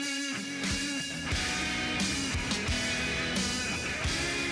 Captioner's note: energetic rock music; truck engine humming